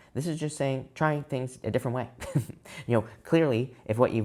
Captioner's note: chuckles